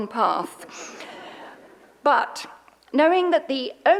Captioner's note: audience laughs